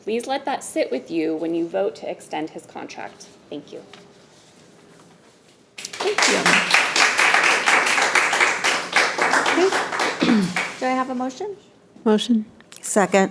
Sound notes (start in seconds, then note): 5.8 people clapping